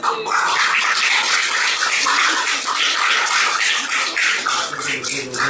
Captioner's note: clapping